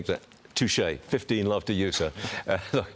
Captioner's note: laughter